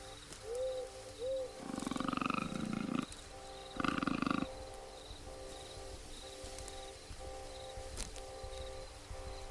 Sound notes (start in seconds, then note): 1.6 animal growling